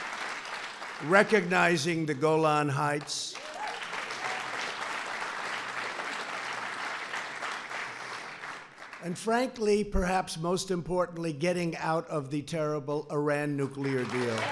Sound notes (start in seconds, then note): 4.7 applause